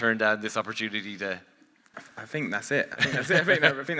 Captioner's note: laughs